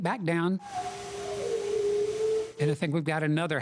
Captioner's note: howl with pitch changes